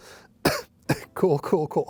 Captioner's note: coughs